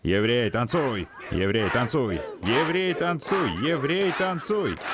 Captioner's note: group shouting